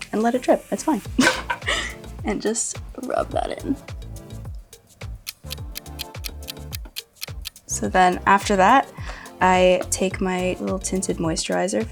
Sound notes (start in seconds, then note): 1.2 laughs; 5.1 clock ticks